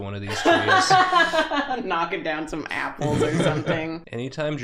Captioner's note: loud laugh